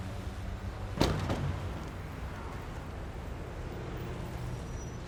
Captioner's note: car doors click; car doors bang